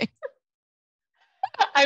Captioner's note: both laugh